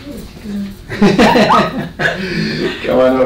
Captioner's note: both laughing